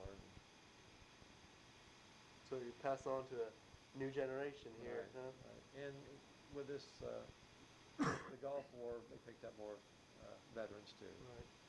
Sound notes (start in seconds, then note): 8.0 coughs